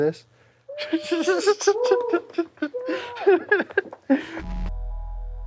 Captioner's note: laughs